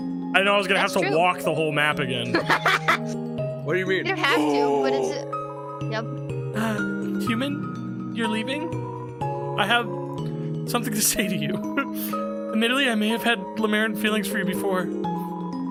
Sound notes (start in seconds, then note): 2.2 laughs; 6.6 gasps